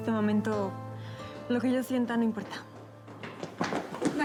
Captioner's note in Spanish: ruido de carrera